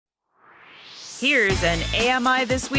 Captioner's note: swoosh